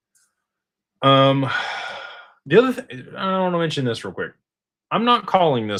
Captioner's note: sighs